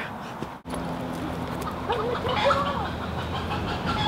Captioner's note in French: caquètement de poules